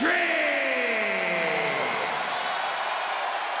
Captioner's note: crowd cheer